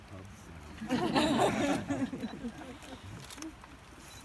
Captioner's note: laughter